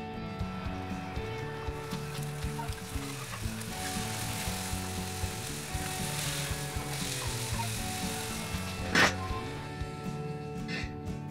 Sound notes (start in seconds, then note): 0.2 upbeat music; 4.2 fire crackling; 7.1 upbeat music